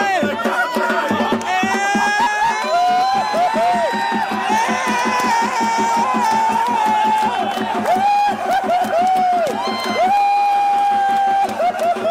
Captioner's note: applause